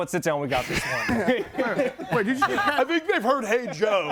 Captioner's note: group laughs